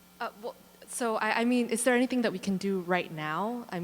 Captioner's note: voiceover